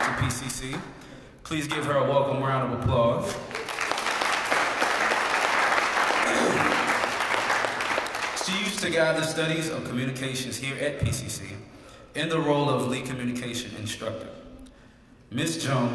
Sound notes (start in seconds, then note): 3.4 applause; 4.5 cough; 7.0 applause